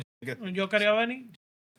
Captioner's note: speaking Spanish